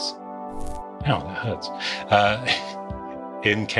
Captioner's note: laughs